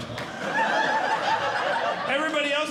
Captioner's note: audience Laughing